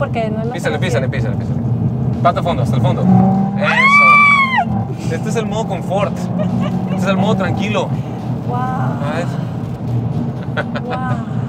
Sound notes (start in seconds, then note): 3.6 screams in excitement; 8.0 laughing